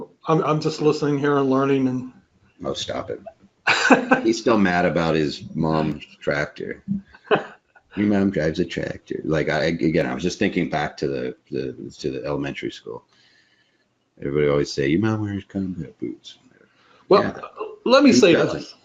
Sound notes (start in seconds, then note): 3.6 laughter; 7.9 laughs